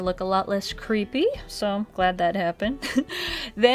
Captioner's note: giggles